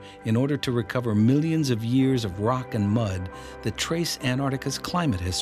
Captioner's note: none